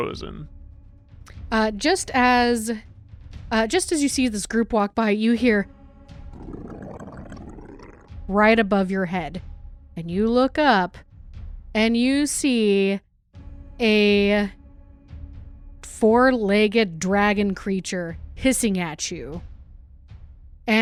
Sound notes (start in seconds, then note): 6.3 low growling